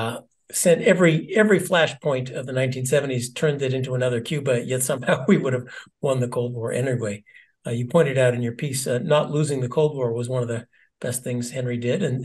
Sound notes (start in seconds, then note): 4.8 laugh